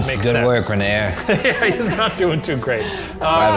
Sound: laughing

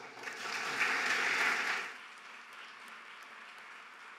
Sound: audience applauding

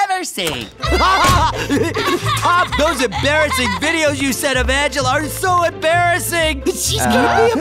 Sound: laughing

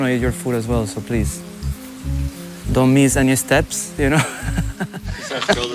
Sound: chuckles

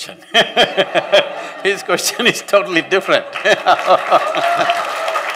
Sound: laughter; laughter/Applause

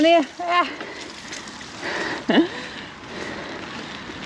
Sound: laughter

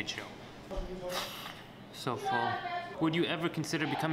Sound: exhales

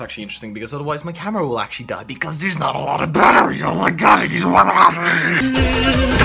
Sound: satanic mumbling

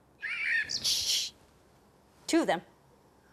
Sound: bird singing angrily

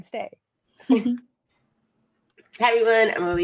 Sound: chuckles

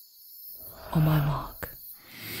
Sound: A rush of air, seemingly from the sky itself, echoes

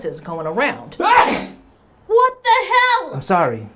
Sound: sneezes

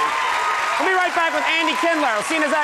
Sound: crowd cheers

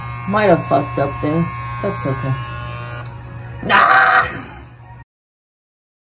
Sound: surprise pterodactyl screech

